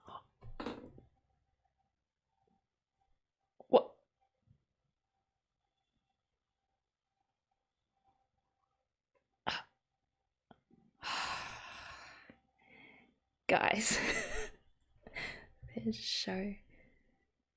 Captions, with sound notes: Wha - [big sigh of relief] Guys [laughs]! This show...